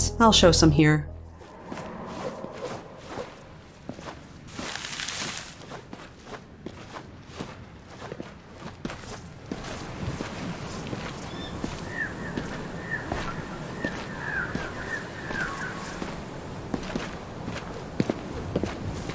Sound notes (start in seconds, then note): 1.0 flapping of little leathery wings; 9.4 footsteps, gentle wind, cawing birds; 17.1 footsteps